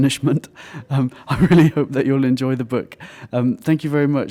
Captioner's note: chuckle